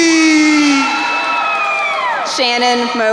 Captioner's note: crowd cheering